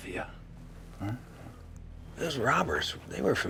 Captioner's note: mumbles